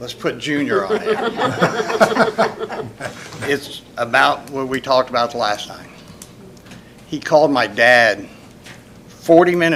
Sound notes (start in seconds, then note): 0.7 laughter